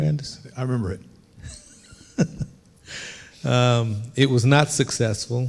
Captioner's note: chuckling